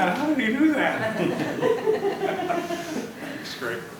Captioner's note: laughter